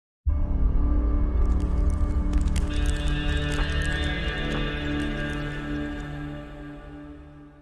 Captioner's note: pages flipping